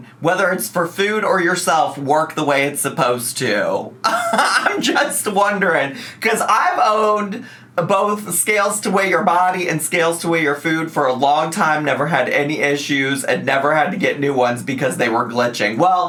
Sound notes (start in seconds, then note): 4.0 laughs